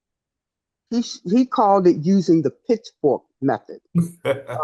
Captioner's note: laughs